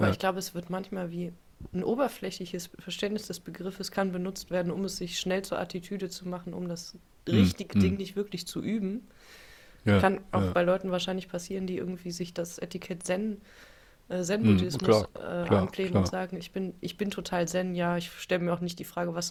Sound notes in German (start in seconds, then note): 7.3 räuspern